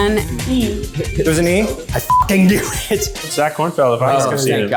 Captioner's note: beep